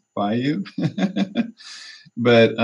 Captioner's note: laughter